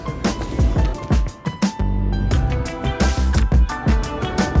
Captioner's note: pages turning; upbeat music